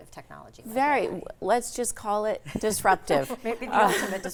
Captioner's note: all laughing